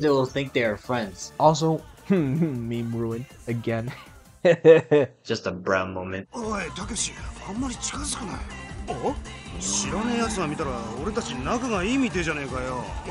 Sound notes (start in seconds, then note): 6.1 in Japanese